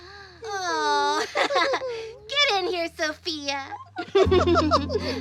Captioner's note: laughs; gentle music